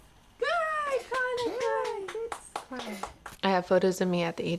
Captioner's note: group claps